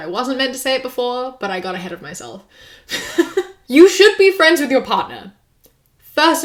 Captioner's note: laughs